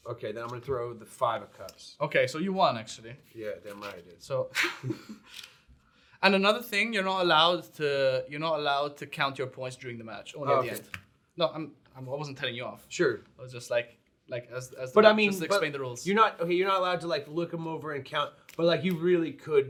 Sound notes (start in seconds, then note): 4.5 chuckles